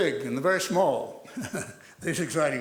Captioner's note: laughs